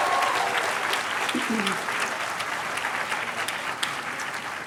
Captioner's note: cheers and applause